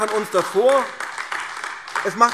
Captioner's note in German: Beifall AfD